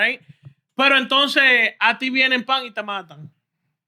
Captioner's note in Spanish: Hablando en idioma extranjero